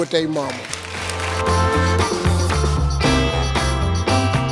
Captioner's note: audience claps